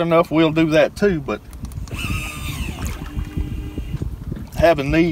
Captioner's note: mechanical whirring